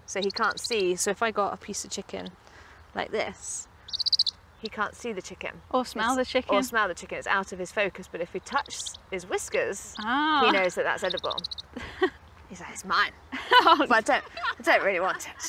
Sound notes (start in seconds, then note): 11.6 owl chatters